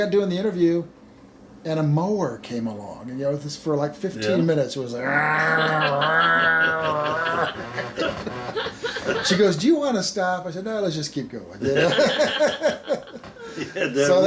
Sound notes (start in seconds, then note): 5.0 grumbling; 8.0 everyone laughing; 11.6 everyone laughing